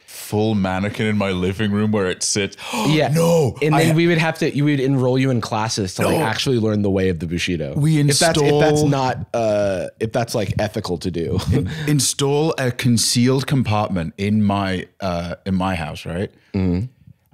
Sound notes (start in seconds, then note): 2.6 gasps